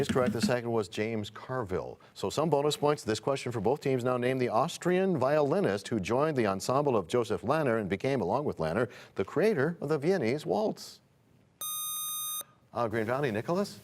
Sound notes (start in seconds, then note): none